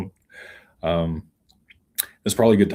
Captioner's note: none